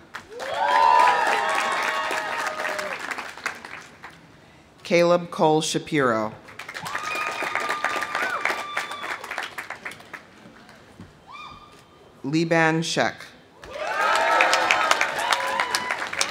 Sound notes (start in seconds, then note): 0.0 audience applauding; 0.2 audience cheering; 6.5 audience applauding; 6.7 audience cheering; 13.6 audience cheering; 13.7 audience applauding